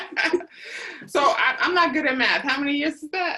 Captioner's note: laughter